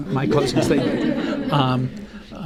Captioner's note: laughter